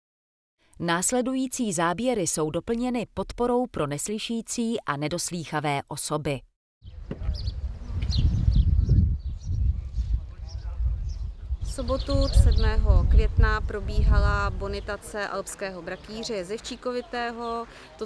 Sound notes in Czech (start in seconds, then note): 6.7 zvuky přírody